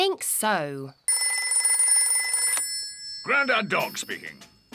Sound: rings

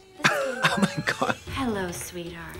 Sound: wheezes

